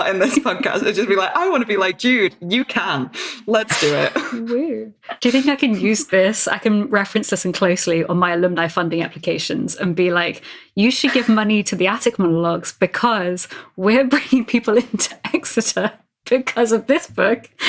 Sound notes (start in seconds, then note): 3.5 laughing